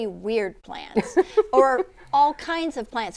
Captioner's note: laughing